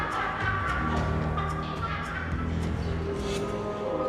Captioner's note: laughing